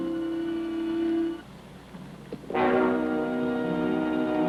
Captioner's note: people chattering